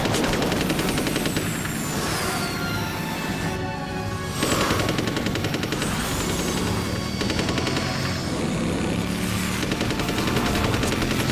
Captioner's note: grumbling of motorcycle engine and gunfire; hissing of the jetpacks and gunfire